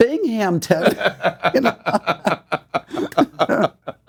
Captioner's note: laughing; hands clapping